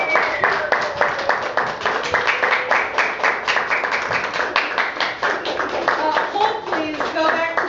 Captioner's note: applause